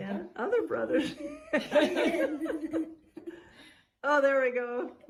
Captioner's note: laughter